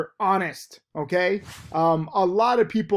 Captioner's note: air whooshes